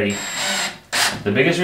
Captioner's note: drill whirring